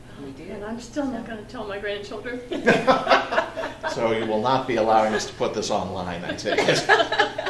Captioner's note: all laugh